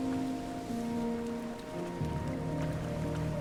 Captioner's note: waves lapping